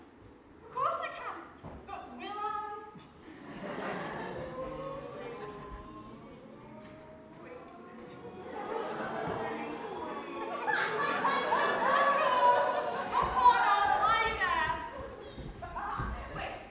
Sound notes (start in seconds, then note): 7.6 audience laughs and ooos